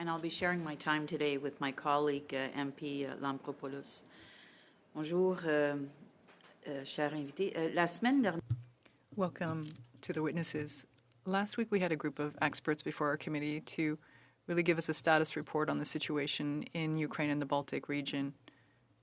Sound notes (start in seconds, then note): 11.0 speaking French